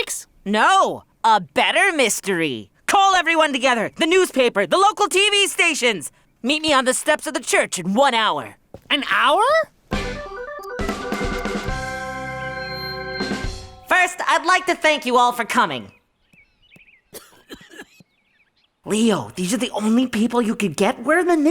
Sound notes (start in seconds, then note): 9.9 upbeat music; 15.8 birds chirping; 17.1 coughing